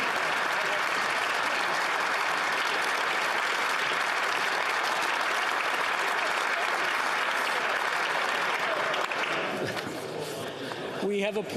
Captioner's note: applause